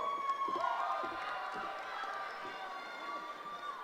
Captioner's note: cheering